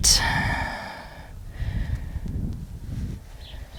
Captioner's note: deep breathing